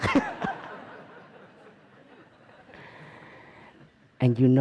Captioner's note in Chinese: 笑聲